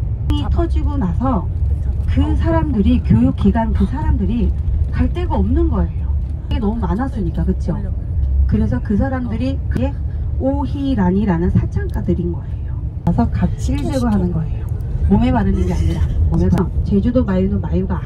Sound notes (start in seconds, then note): 15.0 laughing; 16.4 crying